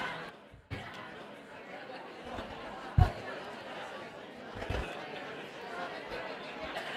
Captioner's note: indistinct chatter